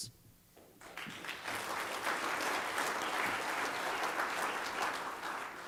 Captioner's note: applause